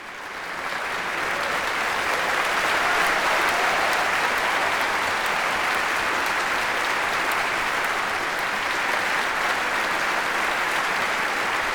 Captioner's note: applause